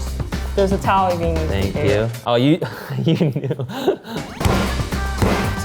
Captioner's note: laughing